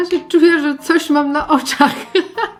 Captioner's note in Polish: śmiech